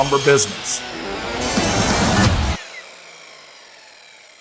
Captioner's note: saw whirring